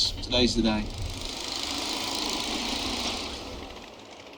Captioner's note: motorbike FX